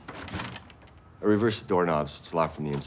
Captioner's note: rattling